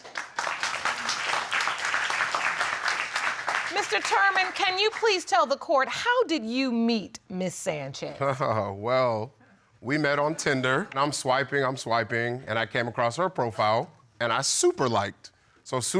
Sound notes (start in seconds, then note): 0.0 audience clapping; 8.4 laughs